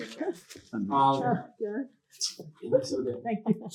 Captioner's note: chuckles